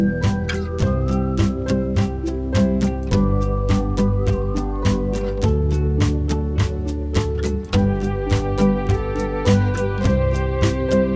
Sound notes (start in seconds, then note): 2.5 whistling